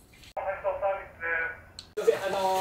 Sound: intercom in japanese

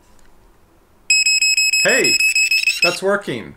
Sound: multiple beeping

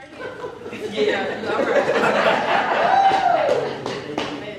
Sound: cheers and applause

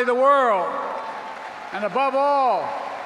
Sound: applause

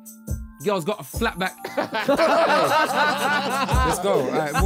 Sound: Sidemen laughing

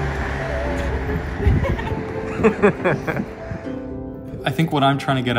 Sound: laughter

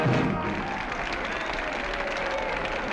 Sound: music ends; cheering, clapping

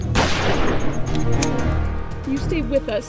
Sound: gun firing

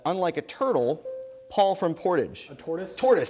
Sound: bell dings

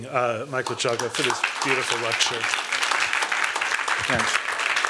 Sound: applause

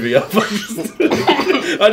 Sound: laughing

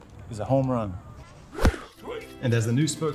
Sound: air whooshing

